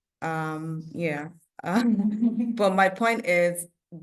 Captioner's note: chuckles